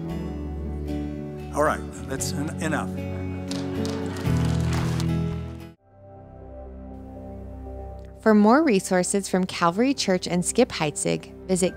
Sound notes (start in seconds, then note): 3.4 applause